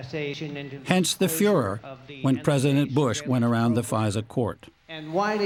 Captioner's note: voice-over